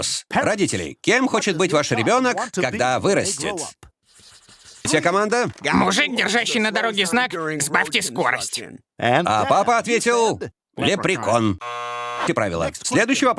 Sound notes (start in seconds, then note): 10.8 lauaughteter; 11.5 buzzzzer buzziuzzing